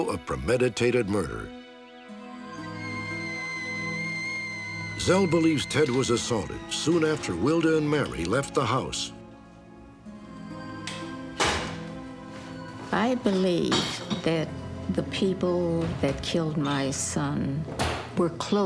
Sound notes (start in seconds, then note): 2.2 kettle whistling